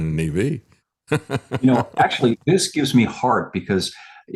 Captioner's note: laughs